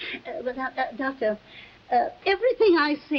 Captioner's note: stammering